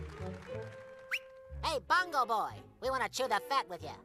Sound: audience applause; whistles

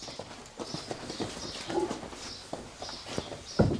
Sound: birds chirping

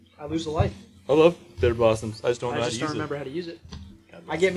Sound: mocking

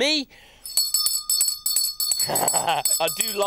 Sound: rings bell; laughs

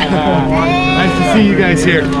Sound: both cheering

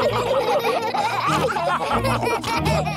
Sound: all laughing

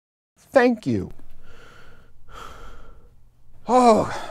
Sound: breathing

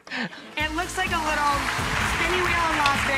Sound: applause

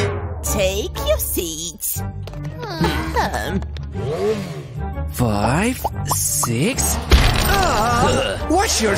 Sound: moaning

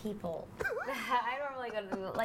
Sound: laughter

